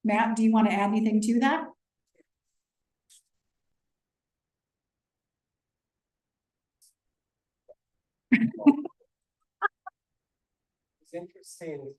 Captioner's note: laughter